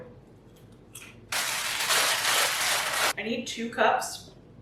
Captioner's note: bag crinkling